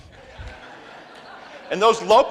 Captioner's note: crowd laughs